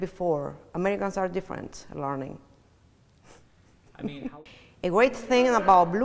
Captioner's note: chuckles